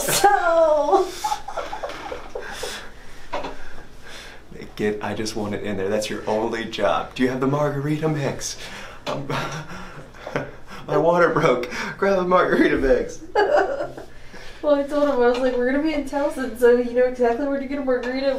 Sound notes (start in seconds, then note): 0.0 laughs; 13.3 laughs